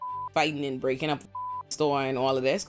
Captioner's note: beep